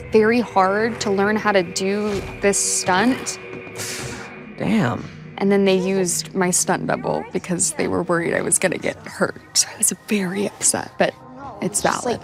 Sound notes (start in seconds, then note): 3.7 sucking teeth